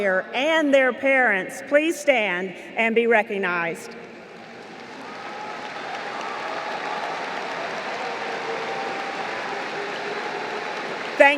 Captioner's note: applause